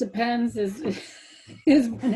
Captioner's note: laughs